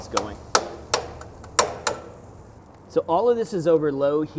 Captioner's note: chopping sounds